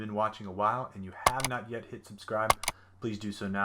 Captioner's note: clicking